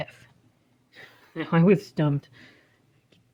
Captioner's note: chuckling